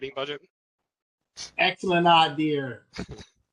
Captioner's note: laughter